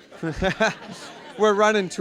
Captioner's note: all laughing